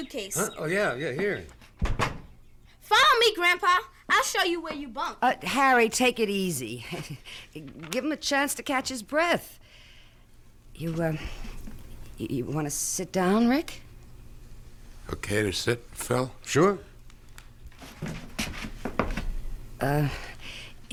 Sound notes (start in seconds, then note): 1.8 door closes